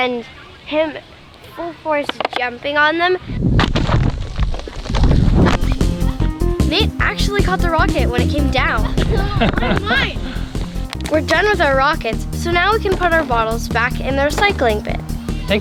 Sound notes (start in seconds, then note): 3.3 wind blowing against rocket; 8.8 laughs